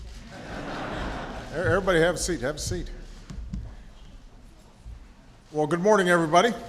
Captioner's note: laughter